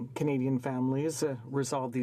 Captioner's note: speaking French